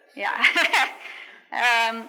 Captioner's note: laughs